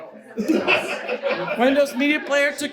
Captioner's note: audience laughs